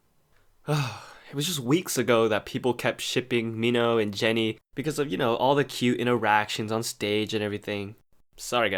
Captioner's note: sigh